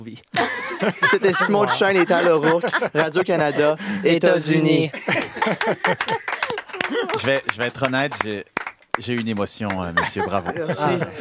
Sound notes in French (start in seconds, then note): 0.3 rires; 3.7 en choeur; 4.9 rires